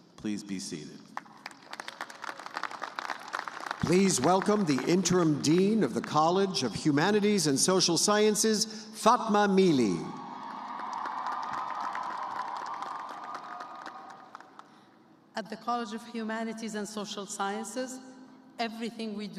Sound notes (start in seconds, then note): 4.2 applause; 12.2 cheers and applause